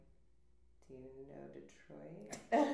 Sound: laughs

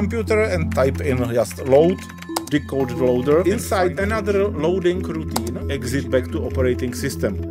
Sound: sound of typing

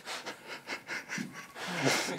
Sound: laughter

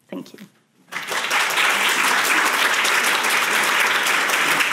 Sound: audience applauding

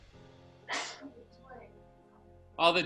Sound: woman sneezing

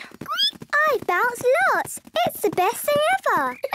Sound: squeaks; giggles

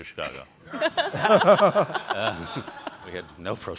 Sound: all laugh

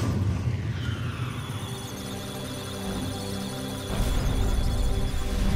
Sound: electric sounds of data; musical tones

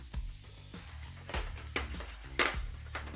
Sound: pan clanking

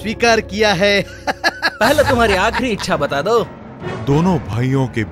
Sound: laughs

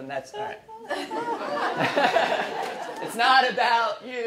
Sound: laughing

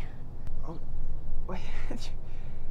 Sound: whispering

